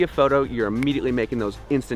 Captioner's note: snaps fingers